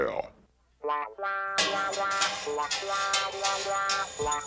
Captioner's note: clattering